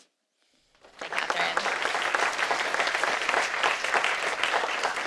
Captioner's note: audience applauding